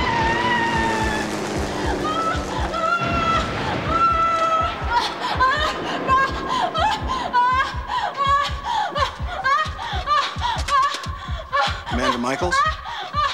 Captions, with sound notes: [screaming] [explosions] STEELE: Commander Michaels?